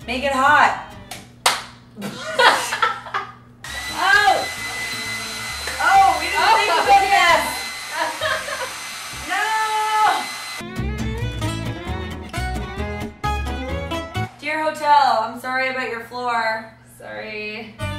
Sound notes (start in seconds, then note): 1.4 claps; 2.0 laughing; 3.8 hairdryer blowing; 7.9 laughs; 10.6 upbeat folk music